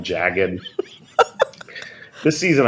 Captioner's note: laughter